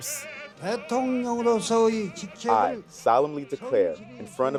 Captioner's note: soundbite of archived recording